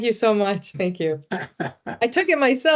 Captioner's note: laughing